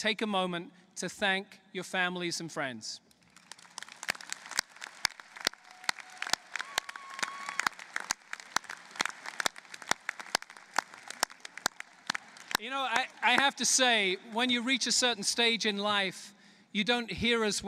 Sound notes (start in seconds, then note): 3.1 applause